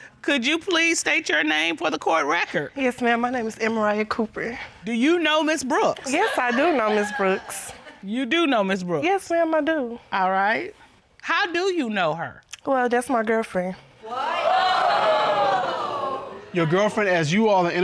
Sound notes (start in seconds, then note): 14.0 audience exclaims